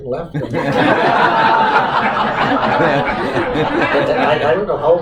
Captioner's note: laughter